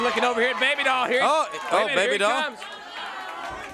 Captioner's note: crowd cheering